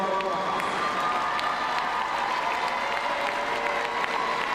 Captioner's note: crowd cheering